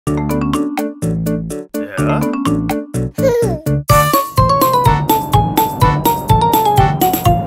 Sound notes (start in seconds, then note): 0.1 upbeat music; 3.1 baby laughs